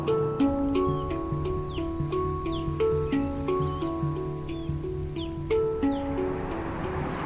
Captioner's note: osprey calling